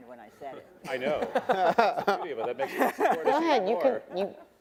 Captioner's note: attendees laughing